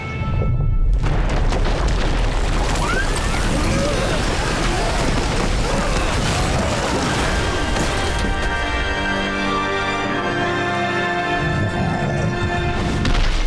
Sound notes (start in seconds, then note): 2.7 screaming